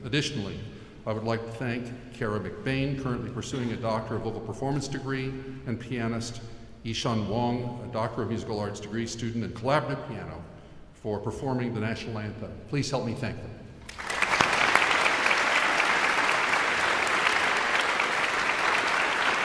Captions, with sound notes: Additionally, I would like to thank Kara McBain, currently pursuing a Doctor of Vocal Performance degree, and pianist Ishan Wang, a Doctor of Musical Arts degree student in collaborative piano, for performing the national anthem. Please help me thank them. (audience applauds)